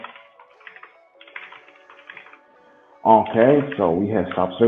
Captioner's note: keys clicking